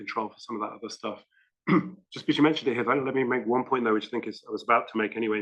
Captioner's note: cough